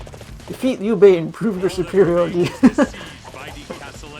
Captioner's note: laughs